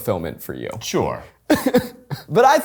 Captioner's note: laughs